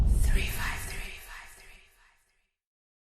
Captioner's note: air whooshing; ghostly Voice